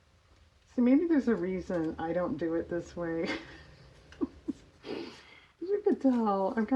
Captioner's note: laughs